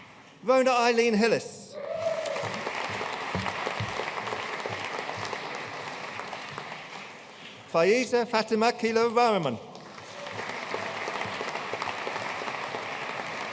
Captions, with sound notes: Rhona Eileen Hillis. (AUDIENCE CHEERING AND APPLAUDING) Fayiza Fathima Khaleelur Rahiman. (AUDIENCE APPLAUDING)